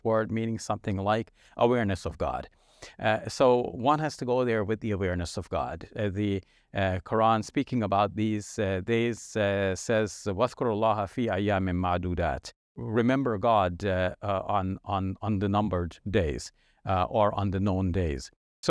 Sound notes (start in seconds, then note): 9.5 speaking in Arabic